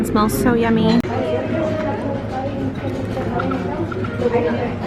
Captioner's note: crowd chatting